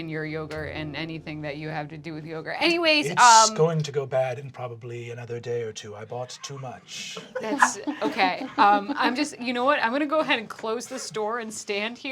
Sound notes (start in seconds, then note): 6.2 laughing